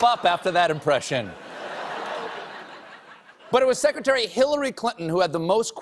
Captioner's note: laughter